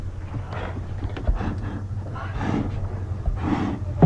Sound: blowing

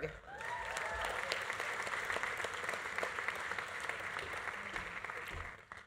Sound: audience applauding; audience cheering

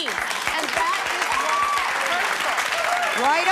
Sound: applause

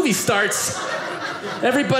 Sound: audience laughing

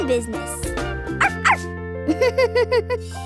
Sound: laughs

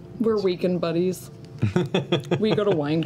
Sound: laughs

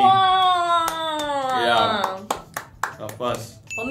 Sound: claps

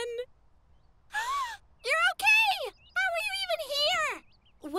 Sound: Ruby gasps in surprise

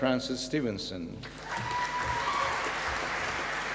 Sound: applause

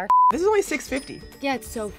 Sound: cash register rings

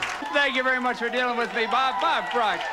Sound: audience applauding

